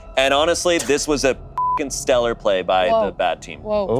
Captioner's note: beep